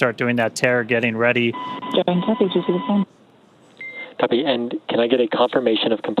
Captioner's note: beep